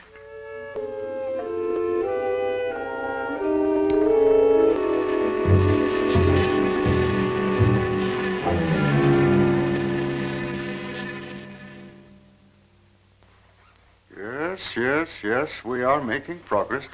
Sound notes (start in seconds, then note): 0.3 dramatic music; 6.1 buzzing